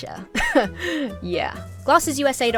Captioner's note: laughs self-confidently